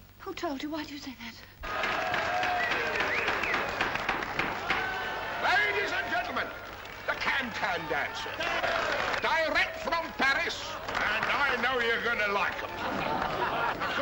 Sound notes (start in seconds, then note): 1.4 cheering & applause